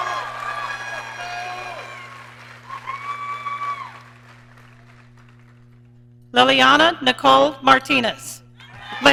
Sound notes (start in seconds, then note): 0.0 audience cheering; 8.7 audience cheering